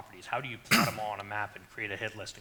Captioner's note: coughs